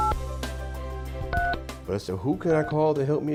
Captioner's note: button tones